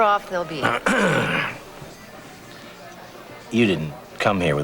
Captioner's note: clears throat